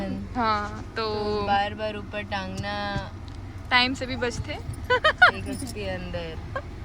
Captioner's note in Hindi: हंसी